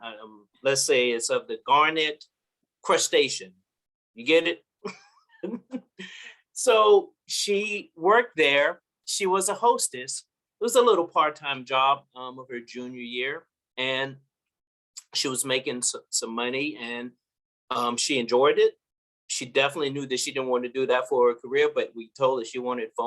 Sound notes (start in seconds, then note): 5.2 laugh